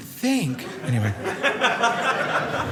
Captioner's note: audience laughing